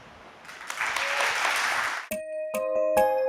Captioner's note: applause